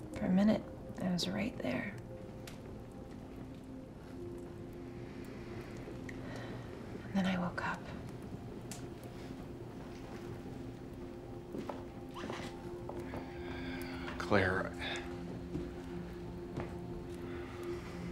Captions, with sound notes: For a minute, I was right there. (gentle music) (fire crackling) (Claire sighs) Then I woke up. (gentle music) (fire crackling) (footsteps retreating) - Claire? (gentle music)